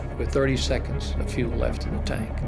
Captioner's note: none